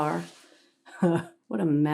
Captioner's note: Sue chuckles